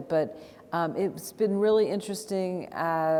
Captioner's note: none